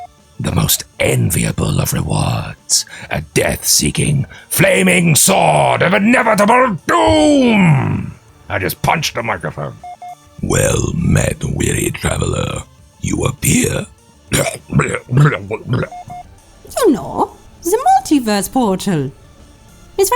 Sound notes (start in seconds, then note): 14.3 voice crack